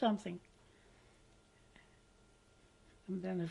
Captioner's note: pauses for 3 seconds